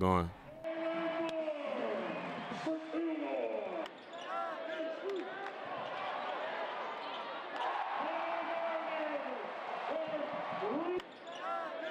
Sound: cheering

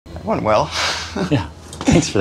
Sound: chuckles

